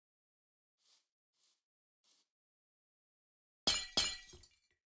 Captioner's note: breaks glass